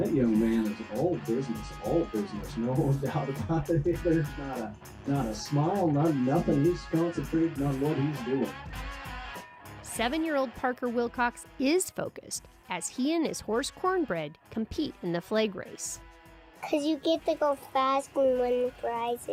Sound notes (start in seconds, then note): 3.9 laughs